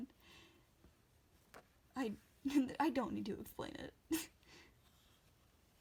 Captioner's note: laughing